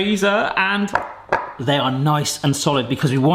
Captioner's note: taps loudly